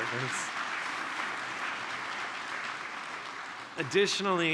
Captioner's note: applause